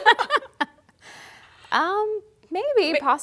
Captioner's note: laughter